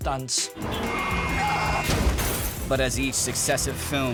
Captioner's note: car honking